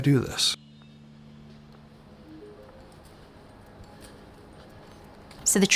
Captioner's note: footsteps on crunchy leaves